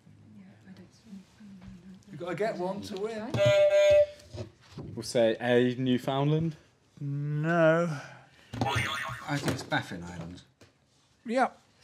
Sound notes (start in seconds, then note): 3.3 honk; 8.6 boing